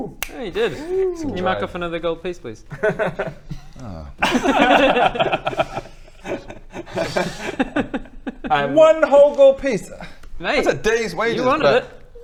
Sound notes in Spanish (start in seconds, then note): 4.4 risas; 6.9 risitas